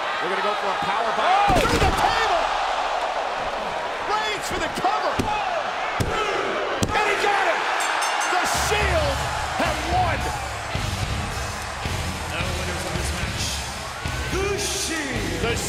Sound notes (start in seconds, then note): 7.6 bell ringing; 10.3 upbeat music